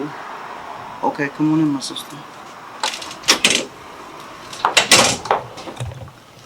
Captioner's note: door closing